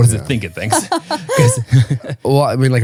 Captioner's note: laughing